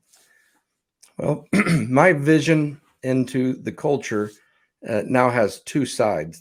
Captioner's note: clears throat